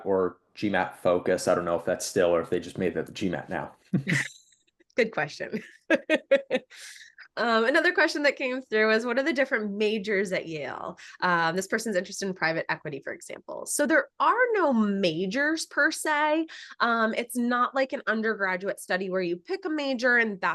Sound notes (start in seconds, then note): 5.6 laughs